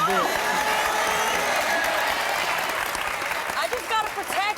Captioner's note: audience cheering and clapping